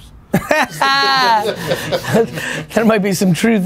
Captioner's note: laughing